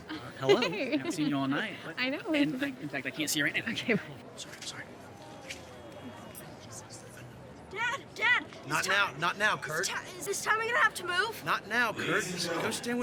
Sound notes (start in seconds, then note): 6.7 James whispering; 7.5 Colton whispering